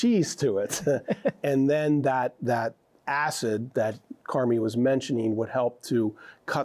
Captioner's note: chuckles